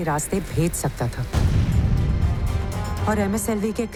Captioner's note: blasting sound